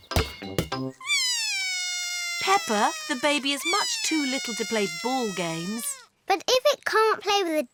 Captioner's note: bawls